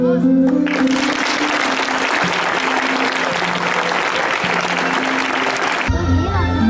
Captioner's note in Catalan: Aplaudiments